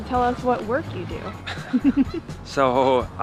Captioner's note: giggles